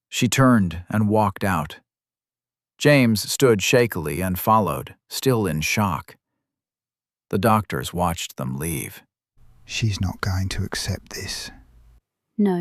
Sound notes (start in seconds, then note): 9.3 quietly